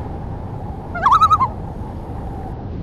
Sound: loon call

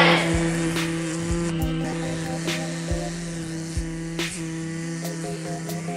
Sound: mosquito buzzing

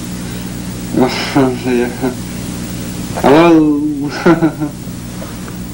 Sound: laughs

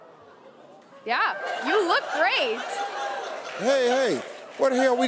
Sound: audience laughing

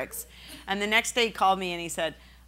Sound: laughing

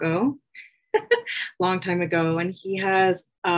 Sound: laughter

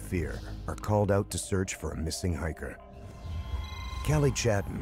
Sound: signal beacon alarm sounds

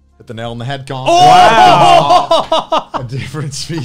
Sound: cheering

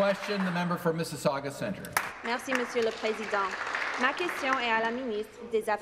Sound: some Applause

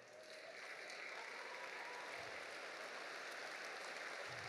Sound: audience applauding

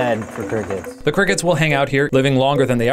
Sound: voiceover

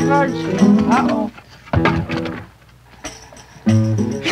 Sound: wooden stilts fall to ground

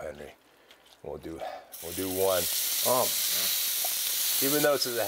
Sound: sizzling

